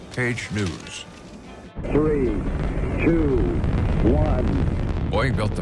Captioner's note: rumble of engine